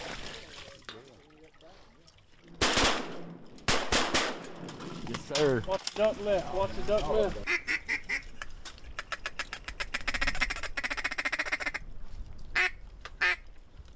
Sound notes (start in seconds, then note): 2.6 gunfire; 8.9 duck call